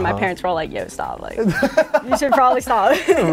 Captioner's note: laughs